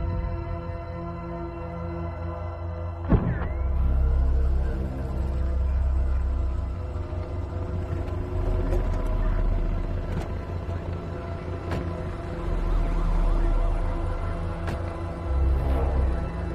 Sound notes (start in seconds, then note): 3.4 people chattering; 3.4 sirens blaring